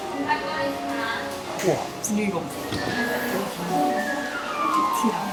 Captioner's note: motorcycles passing through crosswalks